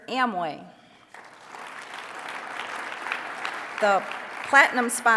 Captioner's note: applause